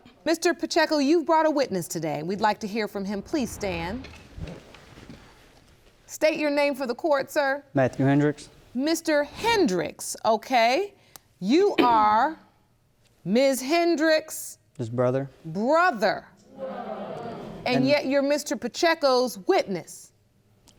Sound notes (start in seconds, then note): 16.5 audience reacting